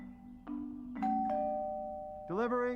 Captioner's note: doorbell Rings